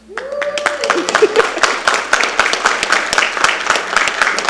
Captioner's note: attendees applauding